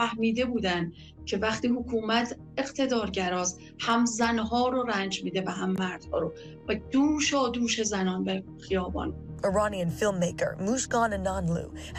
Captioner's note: speaking non-english